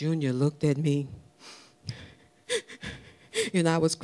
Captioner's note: crying